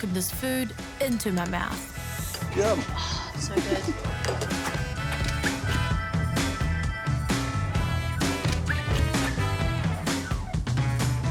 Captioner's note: chuckles